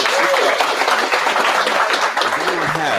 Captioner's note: audience applauding